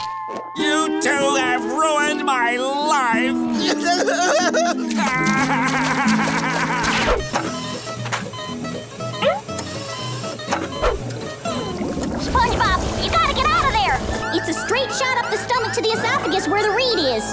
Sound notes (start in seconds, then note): 3.6 crying; 7.1 beeping